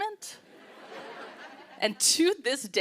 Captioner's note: laughter